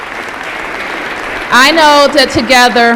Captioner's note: applause